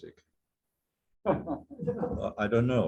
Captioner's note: laughter